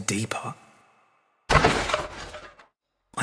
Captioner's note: thump